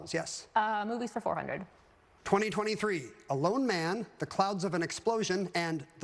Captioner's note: none